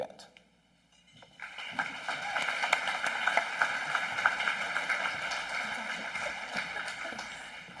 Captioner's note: applause